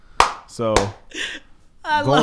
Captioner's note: laughs and claps